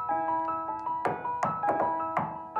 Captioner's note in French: toc toc toc